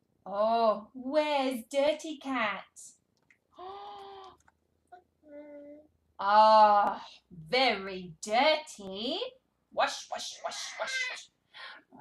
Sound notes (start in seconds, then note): 3.6 gasps